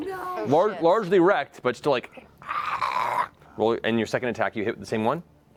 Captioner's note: zombie snarling